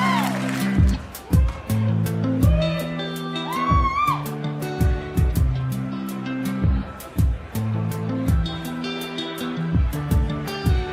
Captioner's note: audience cheering